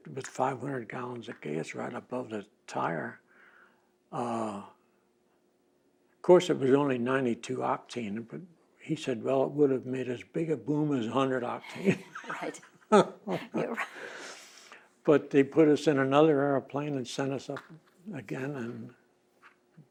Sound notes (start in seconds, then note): 14.1 laughs